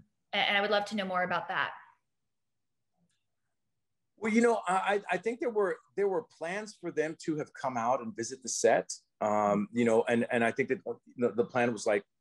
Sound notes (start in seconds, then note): none